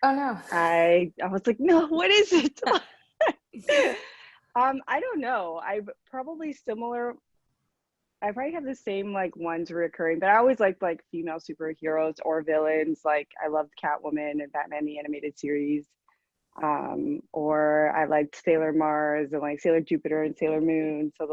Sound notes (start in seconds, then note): 2.7 laughs